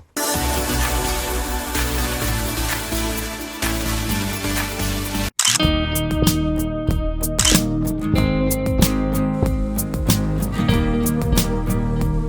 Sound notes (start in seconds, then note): 0.1 intro music; 5.4 photo click; 7.4 photoclick